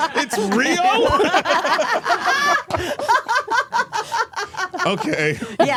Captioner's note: all laughing